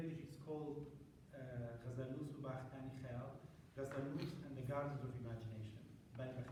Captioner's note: non-english